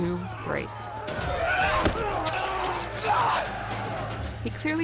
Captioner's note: screaming